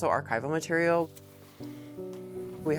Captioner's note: paper rustling